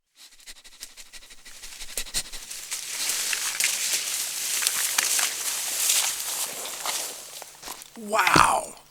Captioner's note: sniffing and rustling through trees